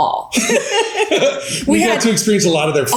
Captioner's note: both laugh